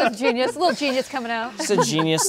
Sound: laughs

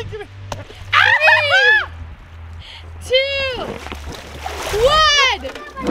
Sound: laughs

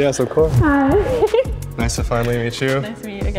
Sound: laughs

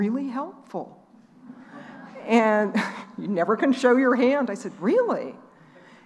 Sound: laughing

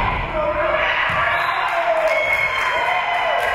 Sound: spectators shouting encouragements; spectators cheering; whistle being blown; spectators cheering and applauding

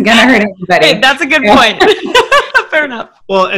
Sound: laughing

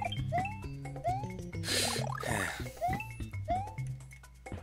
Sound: breathing

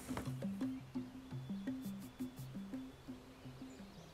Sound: birds chirping

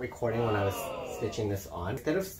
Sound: disappointed crowd

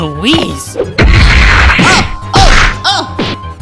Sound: slamming, grunting

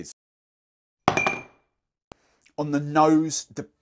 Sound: ice clinks

